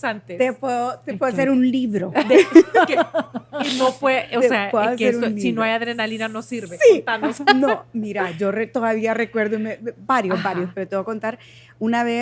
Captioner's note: laughs